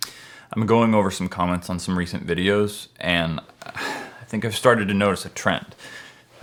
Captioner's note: sigh